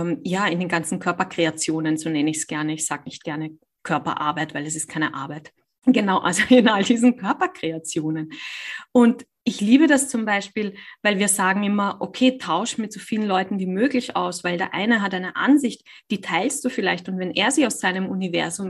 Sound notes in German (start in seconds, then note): 6.5 lacht